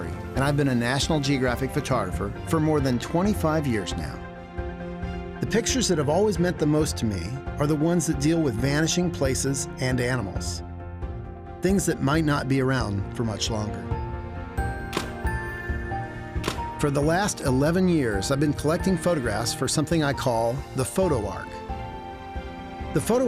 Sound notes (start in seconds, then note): 14.3 camera clicking